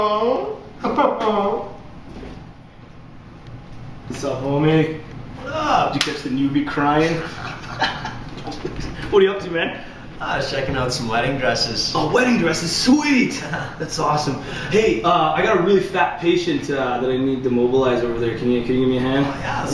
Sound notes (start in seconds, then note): 7.2 laugh together